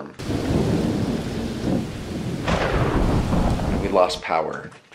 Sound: thunder rumbling

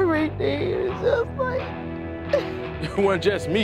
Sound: crying

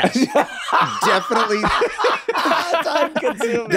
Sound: laughs

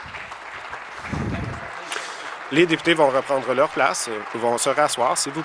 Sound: voice trailing; applause

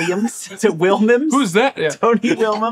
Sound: laughing

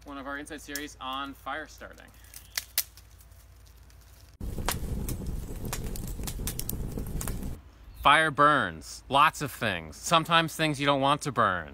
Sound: fire crackling

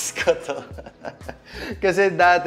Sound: laughs

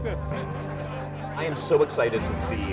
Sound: laughter

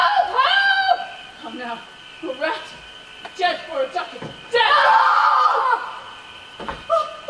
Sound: screams

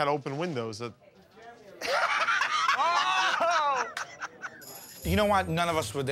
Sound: laughs

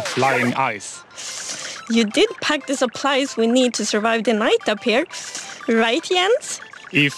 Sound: shivering

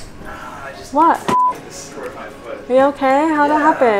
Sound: beep

